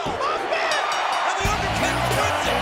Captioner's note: bell rings